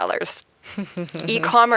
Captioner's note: giggling